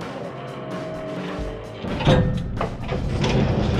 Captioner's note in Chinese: 柵欄開啟